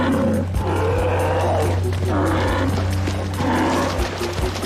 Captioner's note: growls